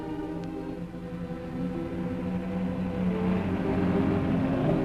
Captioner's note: car engine rumbling